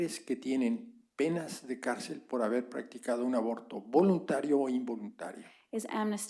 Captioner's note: spanish; spanish